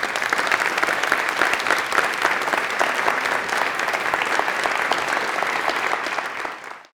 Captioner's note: applause